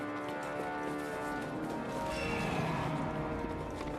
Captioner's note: roaring